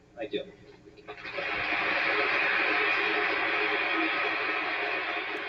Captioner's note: audience applauding